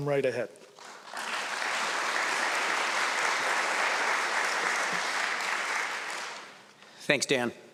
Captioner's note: applause